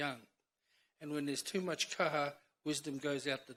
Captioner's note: speaks in foreign language